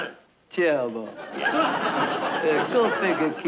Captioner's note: audience laughing